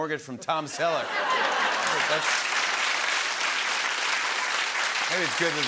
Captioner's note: laughter and applause